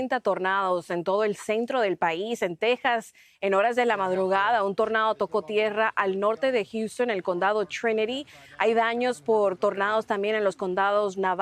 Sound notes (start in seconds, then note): 6.3 HABLA EN INGLéS